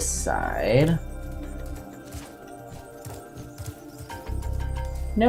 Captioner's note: etherial noise